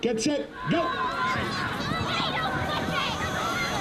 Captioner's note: excited yelling